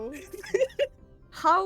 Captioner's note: laughs